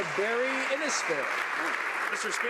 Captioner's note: some Applause